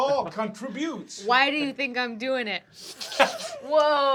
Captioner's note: snorts